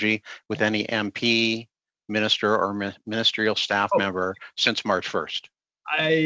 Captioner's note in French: voix de l'interprète